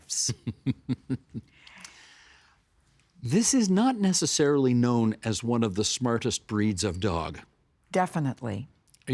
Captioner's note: chuckling